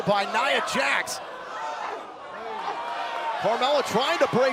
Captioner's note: crowd cheering